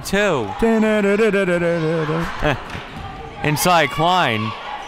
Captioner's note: makes circus-type noises